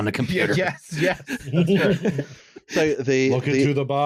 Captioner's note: laughter